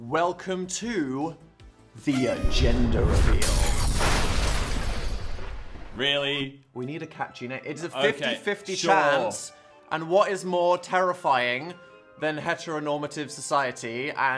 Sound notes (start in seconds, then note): 2.4 thunder rumbling; 2.9 glass crackling